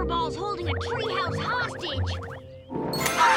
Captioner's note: bird squawks